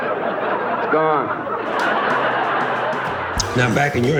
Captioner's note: laughing